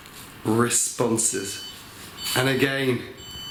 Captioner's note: device beeps